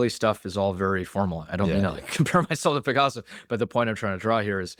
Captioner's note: laughs